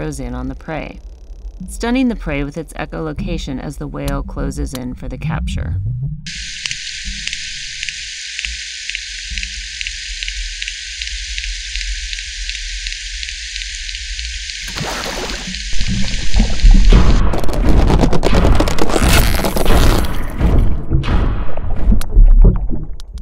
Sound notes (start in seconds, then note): 6.3 whale Clicking sounds